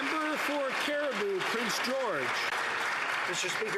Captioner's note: some Applause